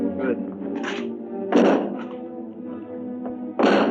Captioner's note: banging